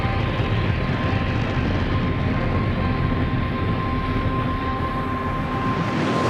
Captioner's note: engines roaring